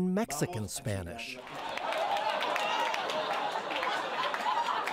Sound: audience laughing and clapping

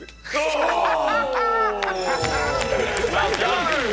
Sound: shouting

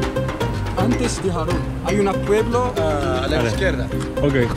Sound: Spanish

